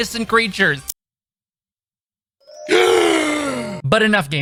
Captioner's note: g a s p